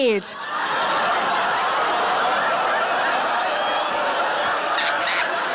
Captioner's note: everyone laughs